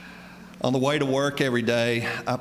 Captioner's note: none